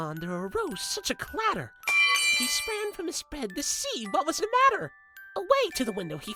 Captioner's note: lead Pipe Falling SFX